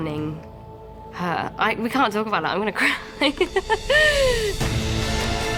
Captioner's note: laughs; intense music playing